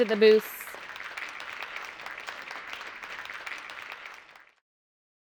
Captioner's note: audience applauding